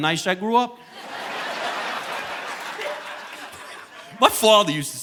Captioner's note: audience laughing